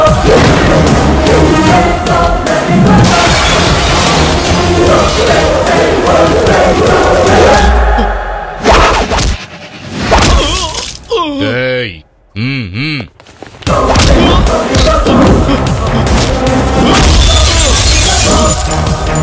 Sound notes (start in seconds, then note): 16.9 glass shatters